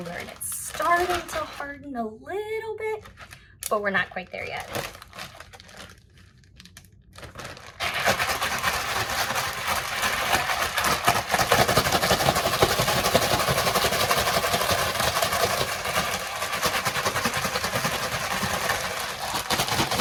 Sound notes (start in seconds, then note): 8.3 bag rattling